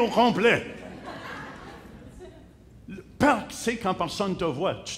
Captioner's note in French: rires